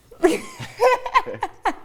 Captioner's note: laughter